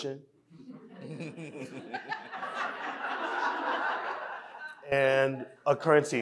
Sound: audience laughing

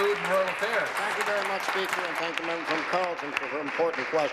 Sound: applause

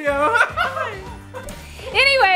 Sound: man laughs

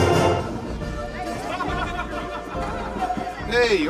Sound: car laughing

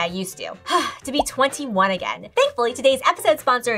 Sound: sighs

